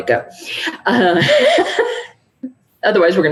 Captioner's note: laughing